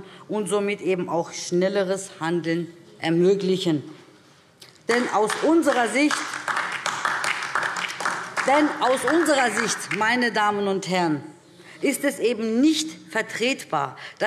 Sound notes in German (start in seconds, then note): 4.9 Beifall DIE LINKE